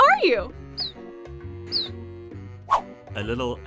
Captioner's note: phoebe chirps